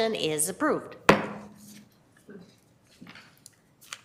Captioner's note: gavel thumps